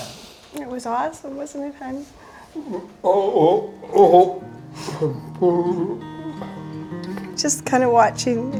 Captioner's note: talks with guttural sounds